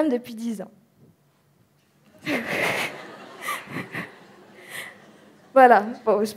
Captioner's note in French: Rires